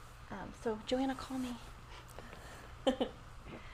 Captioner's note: laughs